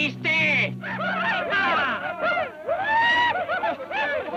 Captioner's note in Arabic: ديلجاديتو يتحدث لغة أجنبية; صراخ الأباتشي